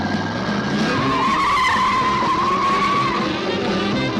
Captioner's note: engine revving; tires screeching; suspenseful music